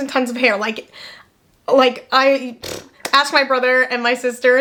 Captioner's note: blowing air